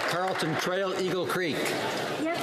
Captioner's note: some Applause